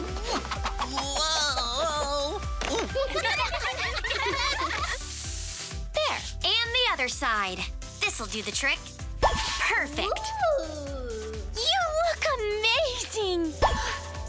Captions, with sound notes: Whoa! [laughing] There, and the other side. This'll do the trick. - Perfect. - Ooh! You look amazing!